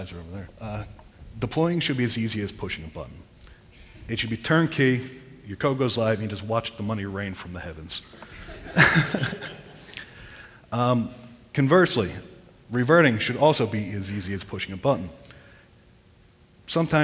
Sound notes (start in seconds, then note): 8.2 laughter